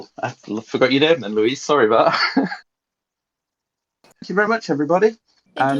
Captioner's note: laughs